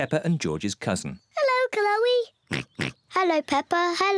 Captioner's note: oinks